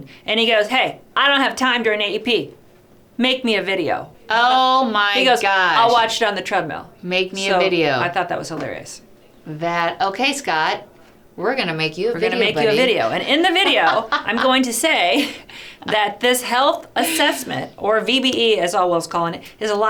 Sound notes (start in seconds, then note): 12.3 laughing